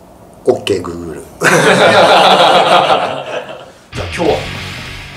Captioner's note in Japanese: 笑い